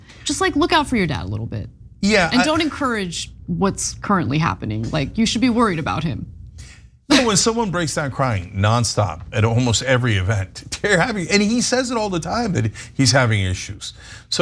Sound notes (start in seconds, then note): 7.1 laugh